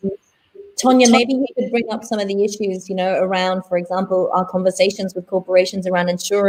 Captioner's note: distortion of sound